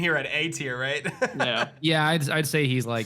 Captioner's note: laughs